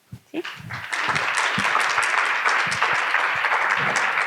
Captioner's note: audience clapping